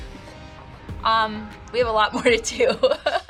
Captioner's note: laughs